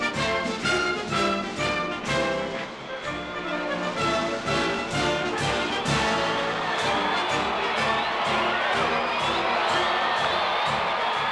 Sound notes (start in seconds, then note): 8.8 crowd cheering